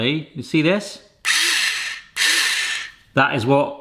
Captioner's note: motor whirs in short bursts